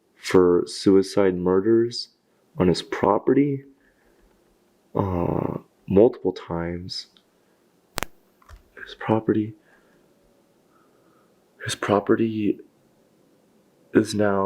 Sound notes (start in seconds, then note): 7.9 static crackles